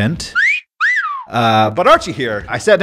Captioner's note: person whistling